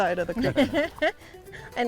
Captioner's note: laugh